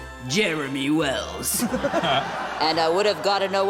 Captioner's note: laughter